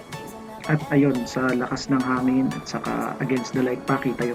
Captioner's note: voice-over